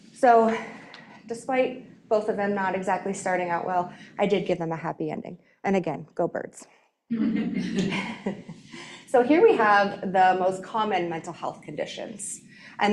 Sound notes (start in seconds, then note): 7.1 audience laughing